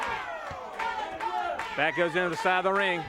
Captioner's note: crowd chanting